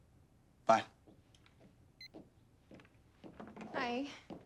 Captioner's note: footstep